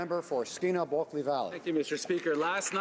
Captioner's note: applause